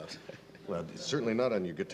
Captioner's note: laughing